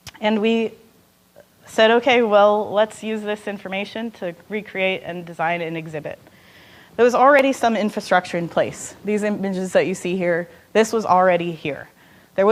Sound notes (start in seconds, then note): none